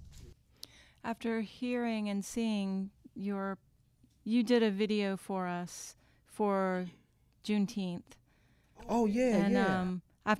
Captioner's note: bad echo